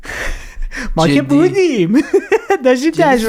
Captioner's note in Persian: خنده